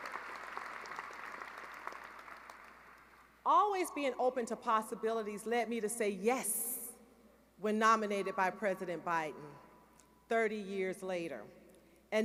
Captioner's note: applause